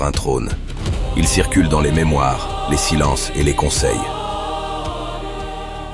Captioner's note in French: chant